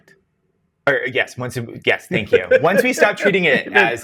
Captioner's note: guy laughs